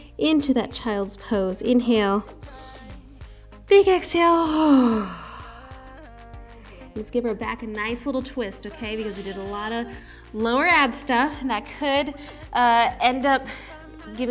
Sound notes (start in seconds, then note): 4.6 exhaling